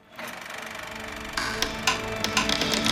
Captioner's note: reel rattles